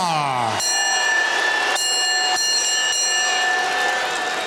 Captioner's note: bell ringing